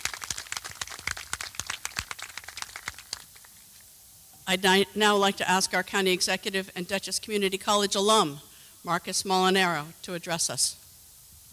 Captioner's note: applause